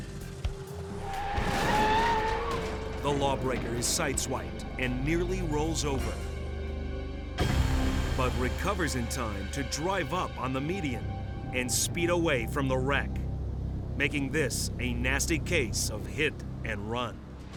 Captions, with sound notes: (tires screeching) (vehicles thudding) The lawbreaker is sideswiped and nearly rolls over, (tense music) but recovers in time to drive up on the median and speed away from the wreck, making this a nasty case of hit and run.